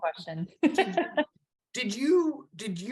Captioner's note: laughs